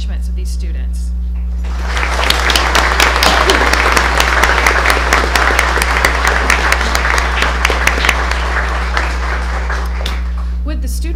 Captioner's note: applause